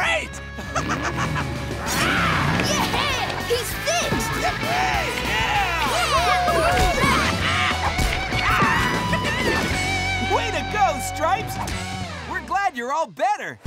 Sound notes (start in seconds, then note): 0.3 laughing; 3.9 cheering